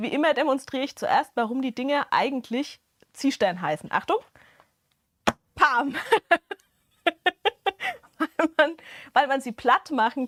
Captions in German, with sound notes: immer demonstriere ich zuerst, warum die Dinge eigentlich Ziehstern heißen. Achtung. Pam. [Gelächter] Weil man, weil man sie platt machen